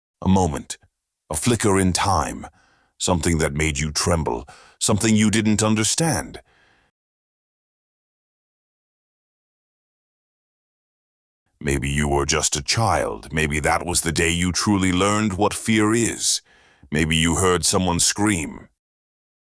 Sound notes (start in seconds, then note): none